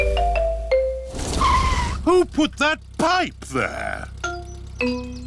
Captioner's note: tires screech